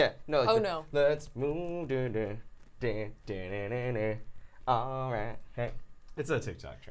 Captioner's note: melodic humming